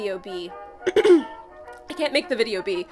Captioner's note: throat clear